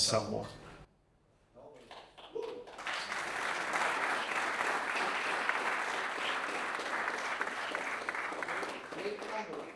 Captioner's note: applause